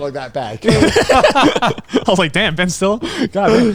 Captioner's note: both laughing